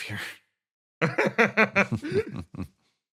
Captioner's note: laugh